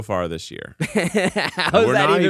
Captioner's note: laughs